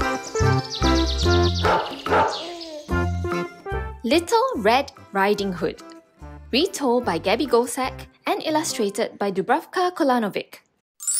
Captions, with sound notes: [dog barking] Little Red Riding Hood. Retold by Gaby Goldsack and illustrated by Dubravka Kolanovic.